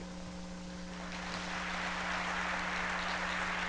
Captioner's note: applause